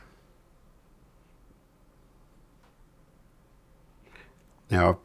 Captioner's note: silence